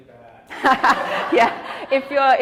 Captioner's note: all laugh